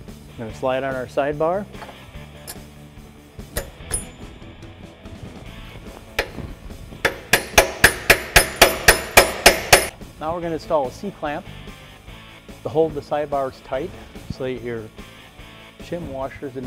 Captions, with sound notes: We're gonna slide on our side bar. (banging) Now we're gonna install a C-clamp to hold the side bars tight so that your shim washers